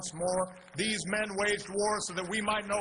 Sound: applause

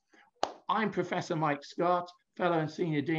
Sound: claps hands

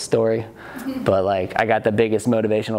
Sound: student chuckles

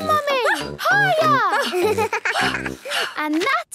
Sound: giggles; panting

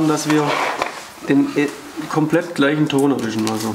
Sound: none

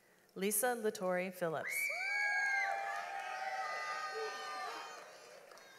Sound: audience applauds

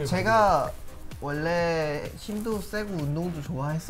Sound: speaking Korean

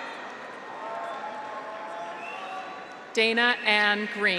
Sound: graduates cheer; audience applauds

